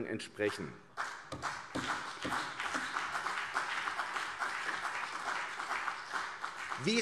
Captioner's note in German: Beifall CDU und vereinzelt BÜNDNIS 90/DIE GRÜNEN